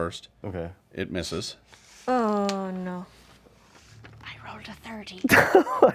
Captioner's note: groans of disappointment